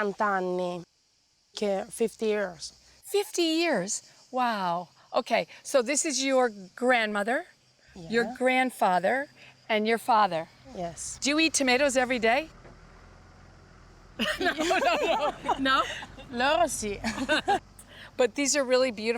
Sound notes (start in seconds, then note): 14.2 laughs